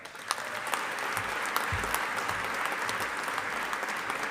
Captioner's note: audience applauding